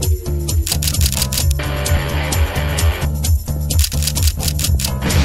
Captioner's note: pulsing music; camera shutter clicking